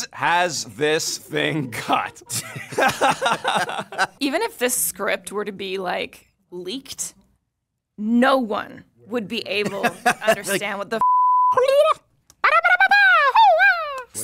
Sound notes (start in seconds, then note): 1.8 laughs; 11.5 vocalizing